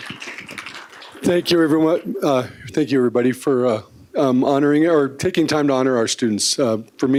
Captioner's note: applause